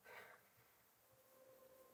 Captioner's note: Jayden sighs; tense music